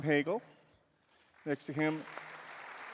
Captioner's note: applause